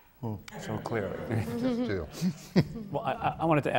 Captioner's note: laughter